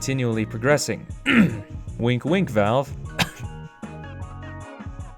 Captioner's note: clears throat; cough